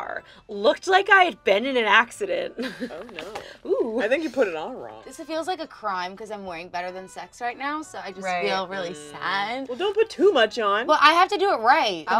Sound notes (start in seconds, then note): 2.5 laughs